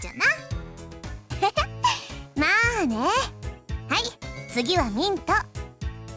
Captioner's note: chuckle